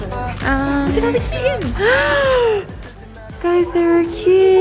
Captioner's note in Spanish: jadea